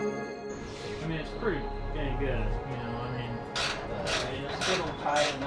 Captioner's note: wrenching noises